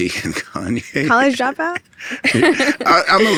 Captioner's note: laughs